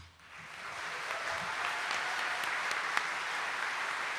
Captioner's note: audience applauding